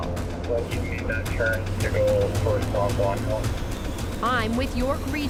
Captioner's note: officer on radio